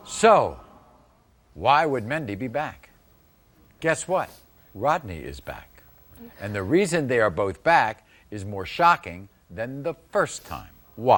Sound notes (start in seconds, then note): none